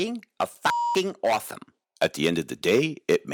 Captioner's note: beep